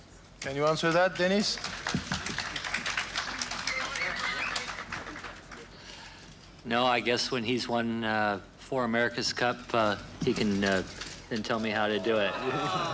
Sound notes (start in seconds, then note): 2.9 applause and whistling from press conference guests